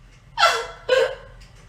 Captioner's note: sobbing